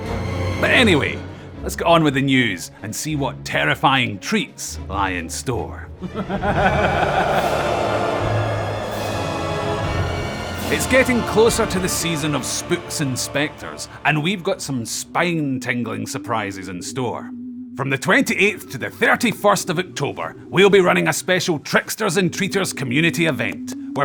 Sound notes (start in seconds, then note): 6.0 evil laughter